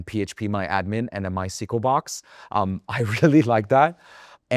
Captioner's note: chuckles